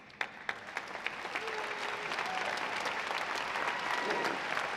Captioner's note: audience clapping